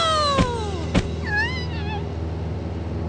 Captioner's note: whimpering